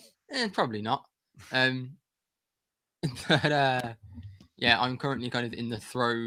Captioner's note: laughter